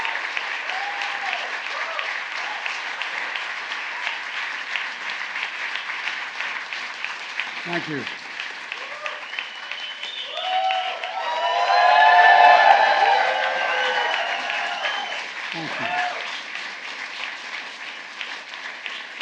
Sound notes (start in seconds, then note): 13.4 applause